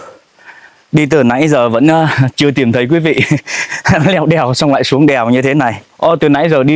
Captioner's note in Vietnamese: tiếng cười